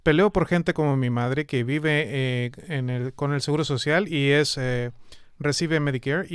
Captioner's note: speaking spanish